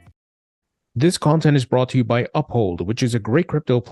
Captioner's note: voiceover